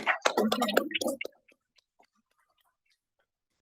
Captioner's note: applause